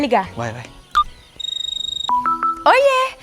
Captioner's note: mobile phone ringing